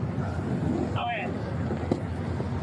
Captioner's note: radio chatter